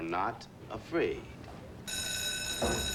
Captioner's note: bell ringing